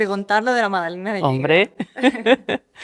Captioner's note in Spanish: Risas